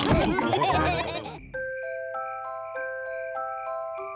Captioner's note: crickets sing